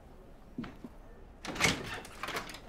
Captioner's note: sound of door opening